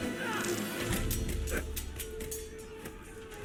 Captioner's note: grunting